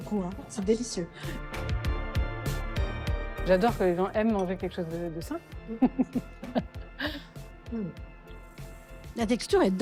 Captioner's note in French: rires